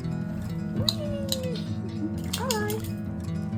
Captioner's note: laughing